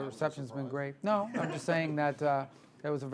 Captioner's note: laughter